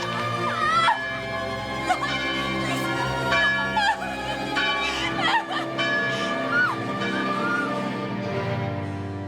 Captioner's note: woman crying